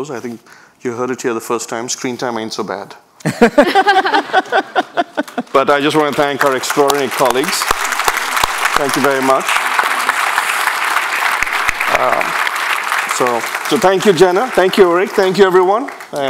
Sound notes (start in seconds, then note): 3.2 people laughing; 11.3 audience applauding